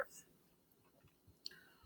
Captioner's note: silence